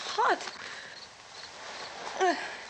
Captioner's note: Barbra groans